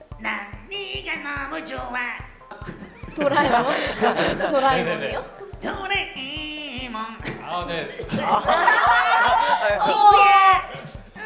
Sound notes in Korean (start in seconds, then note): 7.9 빵 터짐